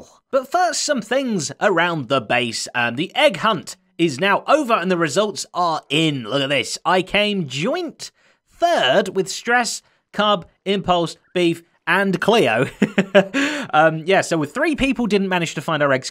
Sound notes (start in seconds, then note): 12.6 chuckles